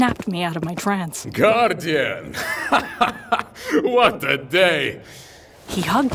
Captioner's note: laughing deeply